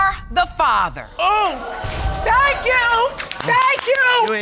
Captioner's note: audience exclaims